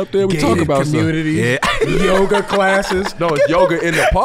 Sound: laughs

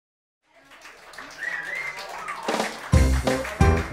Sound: cheering, applauding; upbeat music

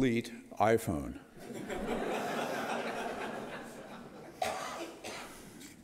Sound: audience laughter

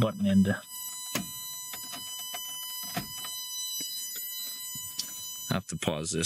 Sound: ignition Alarm

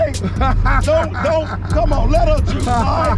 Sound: laughs

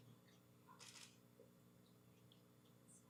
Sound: camera shutter clicking

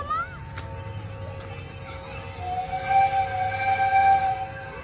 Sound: train whistle

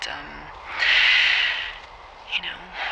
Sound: inhales deeply

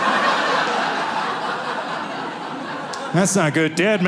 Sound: audience laughing

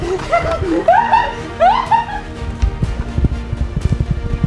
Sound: laughing

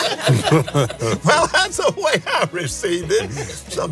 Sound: laughs

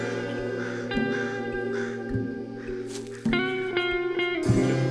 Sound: chilled music; bird calls

